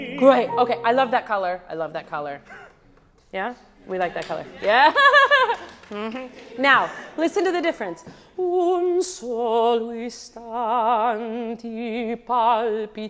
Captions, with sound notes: great, I love that color. I love that color. We like that color. (audience applauding) Now listen to the difference. (singing in foreign language)